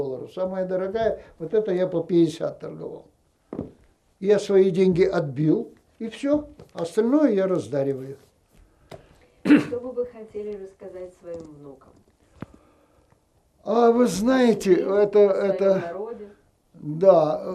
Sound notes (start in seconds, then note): 9.4 clears throat